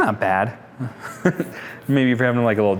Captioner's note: laughs